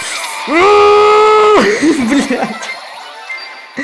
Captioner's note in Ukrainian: сміється